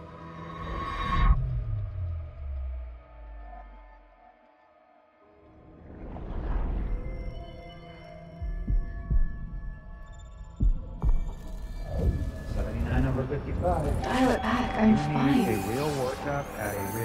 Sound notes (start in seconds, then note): 8.4 heart thumping